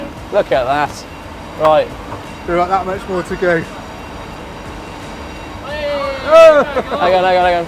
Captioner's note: people cheering